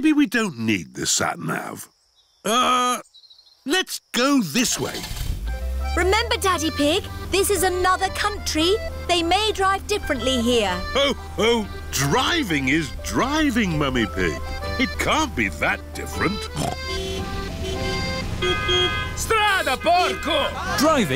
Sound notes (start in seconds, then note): 4.7 starts engine; 16.5 snorts; 17.4 driver yells in italian; 17.4 horns honking